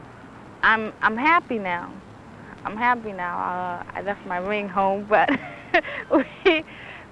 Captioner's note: laughs